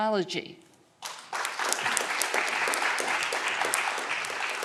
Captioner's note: audience clapping